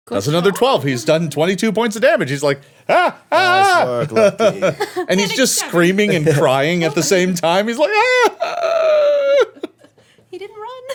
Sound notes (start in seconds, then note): 3.4 screaming; 7.9 screaming and crying